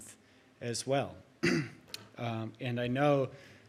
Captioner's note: clears throat